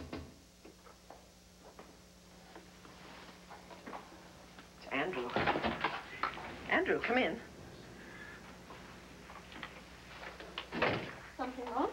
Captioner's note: knock on door